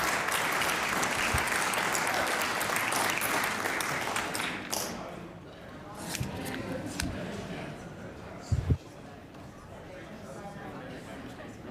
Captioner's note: applause